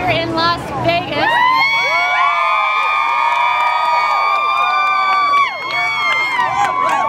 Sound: cheering

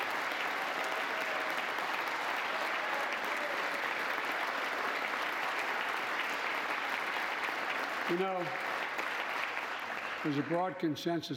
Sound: applause

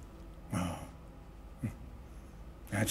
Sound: chuckles

